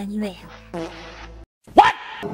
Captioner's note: fart sound